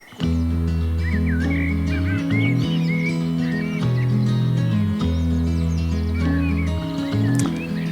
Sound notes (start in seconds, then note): 0.3 upbeat music; 2.8 birds singing